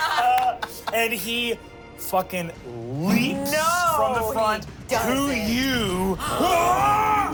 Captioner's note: everyone laughs; yells